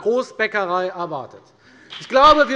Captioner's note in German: Beifall bei der FDP